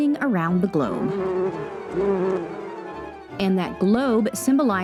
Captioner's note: bees buzzing